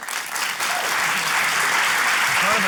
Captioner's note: applause